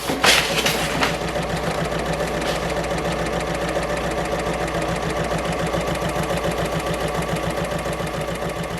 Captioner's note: sewing Machine Sounds